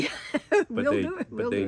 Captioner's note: laugh